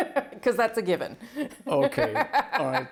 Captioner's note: laughter